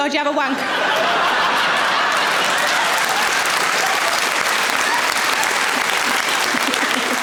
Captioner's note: audience laughing; audience applauds